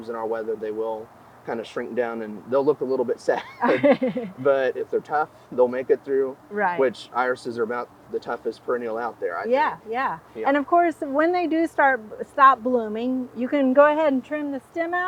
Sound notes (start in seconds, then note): 3.2 chuckling; 3.3 interviewer chuckling